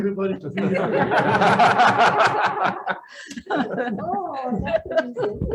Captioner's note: committee members laughing